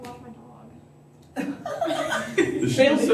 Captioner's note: laughter